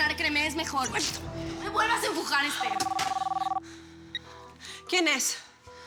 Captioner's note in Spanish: El teléfono suena